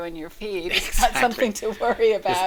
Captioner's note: both chuckle